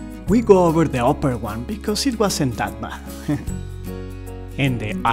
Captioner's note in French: rires